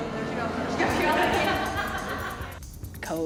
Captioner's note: laughter